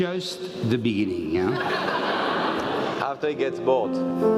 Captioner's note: laugh